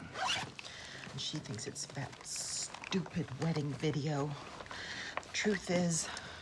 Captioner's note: none